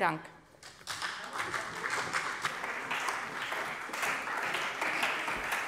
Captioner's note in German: Beifall bei der CDU und dem BÜNDNIS 90/DIE GRÜNEN